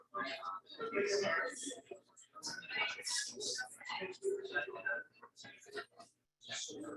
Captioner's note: people chattering indistinctly continues